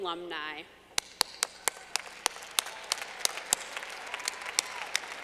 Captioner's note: clapping